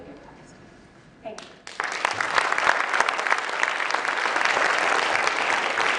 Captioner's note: applause